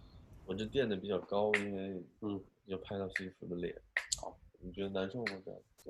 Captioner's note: speaking in a foreign language